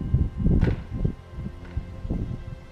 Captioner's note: A gate slams